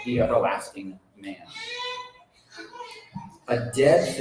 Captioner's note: baby crying